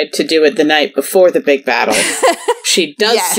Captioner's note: laughs